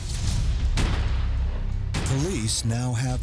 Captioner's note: gunshots booming